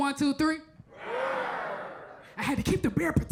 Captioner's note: all roaring